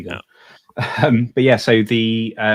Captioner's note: chuckles